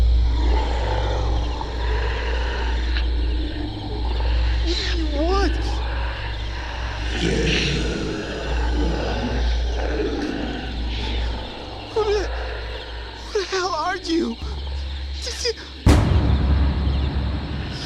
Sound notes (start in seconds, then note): 0.1 ominous Music Continues; 7.3 deep Demonic Voice; 15.2 stuttering